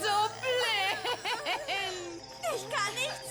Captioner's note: laughing